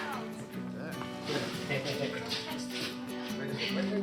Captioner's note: chuckles